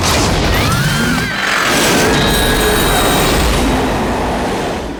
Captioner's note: screaming